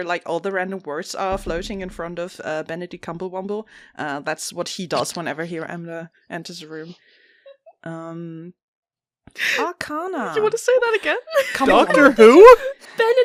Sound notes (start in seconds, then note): 11.3 laughing